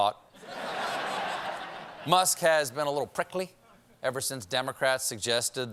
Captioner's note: laughter